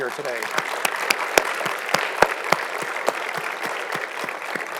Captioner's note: audience clapping